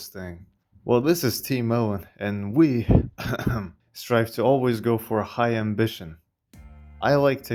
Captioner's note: cough cough